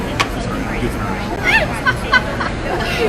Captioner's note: laughs